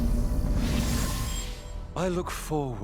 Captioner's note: portal opening; portal closing